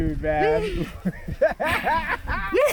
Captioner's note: laughing